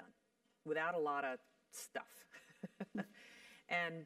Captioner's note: laugh